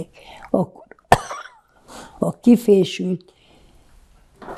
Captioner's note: coughing